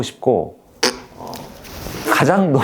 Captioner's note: pfft